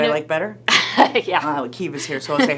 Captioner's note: laughing